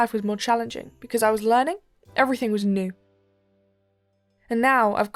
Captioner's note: none